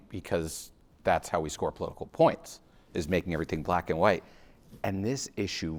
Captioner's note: none